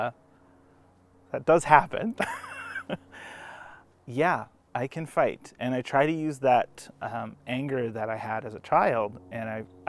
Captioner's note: laughs